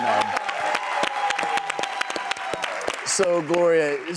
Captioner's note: audience applause